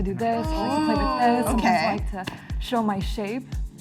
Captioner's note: all ooh